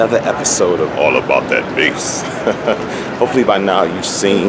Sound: chuckling

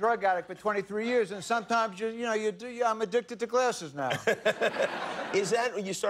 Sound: laughter

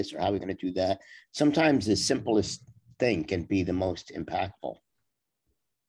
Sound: none

